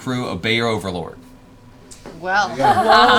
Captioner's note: laughs